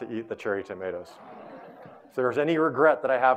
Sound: audience laughing

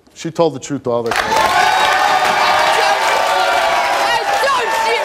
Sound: audience cheering

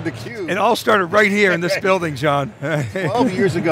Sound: laughs

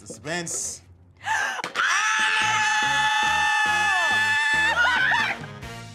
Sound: all screaming

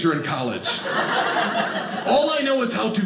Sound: audience laughing

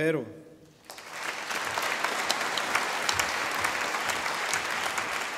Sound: audience applauding

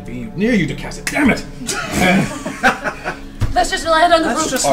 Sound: all laugh

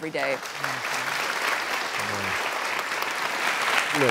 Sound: applauding

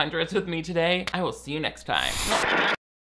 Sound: static crackling

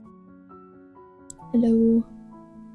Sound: quietly

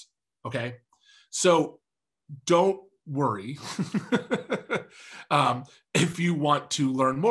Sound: laughs

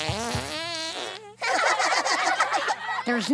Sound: farting; laughing

